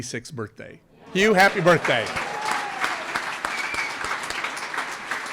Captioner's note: audience applauds